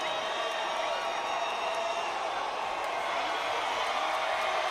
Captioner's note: crowd cheers